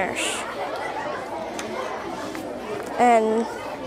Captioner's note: students chattering